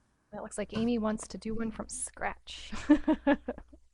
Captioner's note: laughs